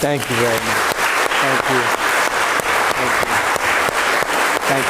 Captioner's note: applause